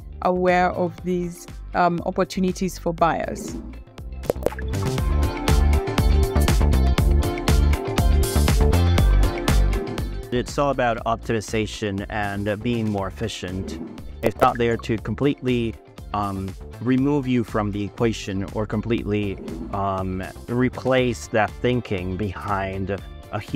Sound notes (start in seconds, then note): 4.2 lively music continues; 4.2 text popping